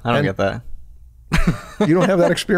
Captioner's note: chuckle